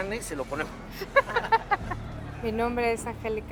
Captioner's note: laughs